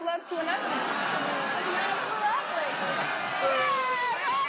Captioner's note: audience groans; audience cheers